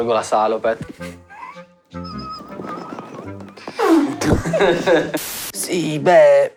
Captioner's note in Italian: Risate